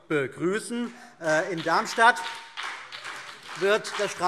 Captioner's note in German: Beifall BÜNDNIS 90/DIE GRÜNEN